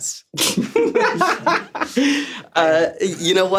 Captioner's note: everyone laughs